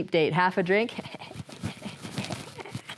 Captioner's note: laughs